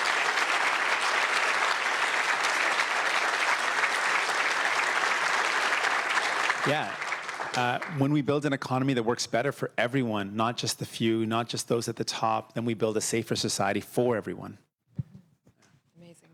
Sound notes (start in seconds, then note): 0.0 cheers; 0.0 applause